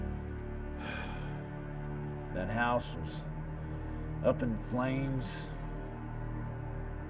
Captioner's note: sighs